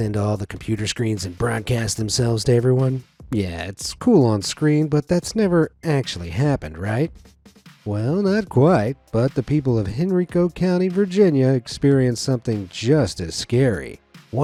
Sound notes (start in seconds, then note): none